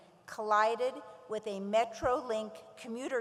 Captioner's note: none